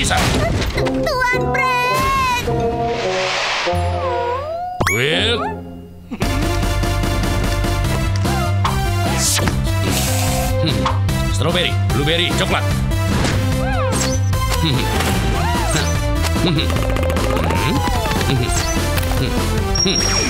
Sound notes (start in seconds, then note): 3.6 sighing; 6.4 upbeat music begins; 13.7 upbeat music